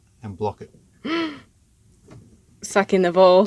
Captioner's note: gasping